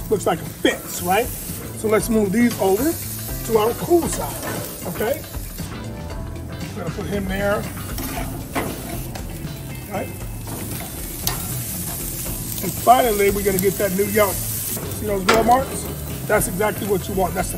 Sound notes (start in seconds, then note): 8.3 tongs scraping; 10.7 steaks sizzling